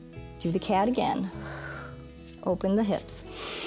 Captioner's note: exhales; inhales